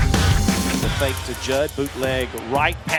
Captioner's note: voiceover